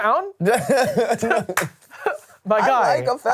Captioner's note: laughs